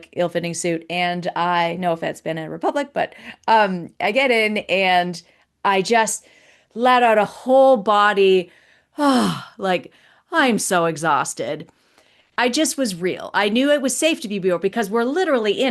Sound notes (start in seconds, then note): 9.0 sighs